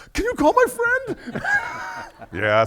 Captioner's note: everyone laughing